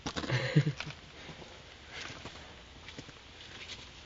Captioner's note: laughing